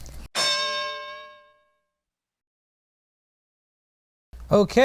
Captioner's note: bell